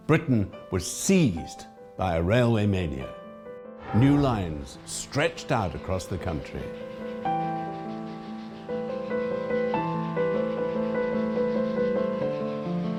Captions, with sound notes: Britain was seized by a railway mania. New lines stretched out across the country. (lively music) (tain chugging)